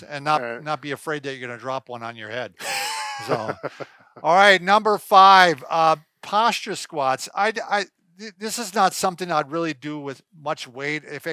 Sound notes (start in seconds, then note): 2.6 laughing